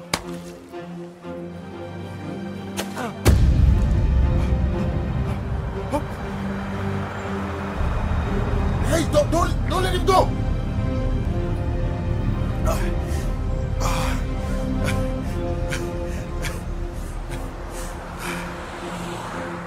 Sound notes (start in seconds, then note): 0.3 balloons popping; 3.4 gasping; 12.9 gasping; 15.9 chuckles